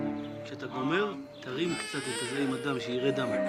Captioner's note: baby crying